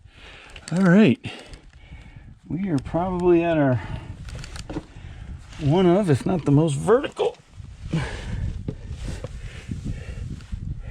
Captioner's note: heavy breathing